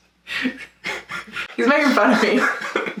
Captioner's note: both laugh